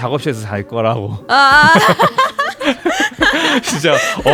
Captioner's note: laughs